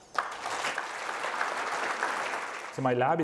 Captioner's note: applause